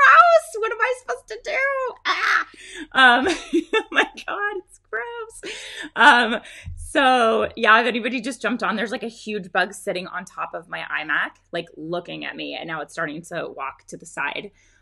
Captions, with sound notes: What am I supposed to do? (woman laughs) My God, it's gross! If anybody just jumped on, there's a huge big sitting on top of my iMac looking at me and now it's starting to walk to the side.